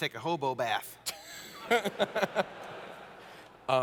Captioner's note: laughter